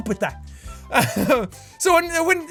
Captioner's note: laughs